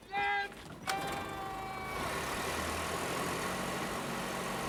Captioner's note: motor starts